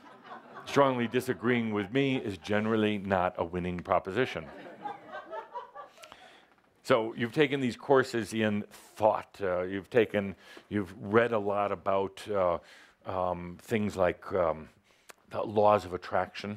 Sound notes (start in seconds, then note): 0.1 laughter; 4.5 more laughter